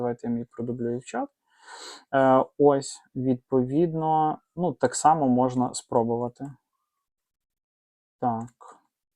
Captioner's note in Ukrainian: сопіння